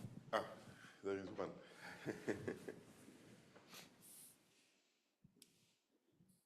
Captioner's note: laughs